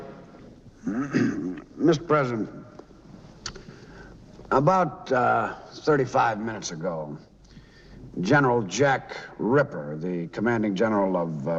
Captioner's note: clearing throat